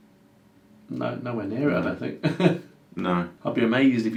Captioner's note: laughs